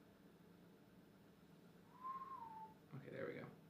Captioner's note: whistle